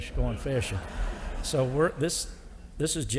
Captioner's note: audience laughing